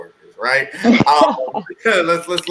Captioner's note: laughing